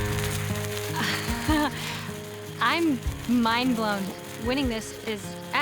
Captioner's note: laughs